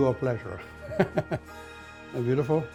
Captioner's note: chuckles